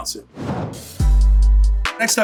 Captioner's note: dramatic whooshing; upbeat hip-hop music